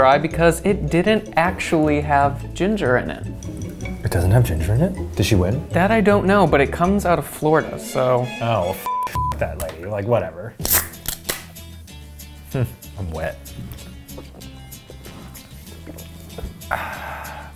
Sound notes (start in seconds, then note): 8.8 beep; 10.6 soda can pops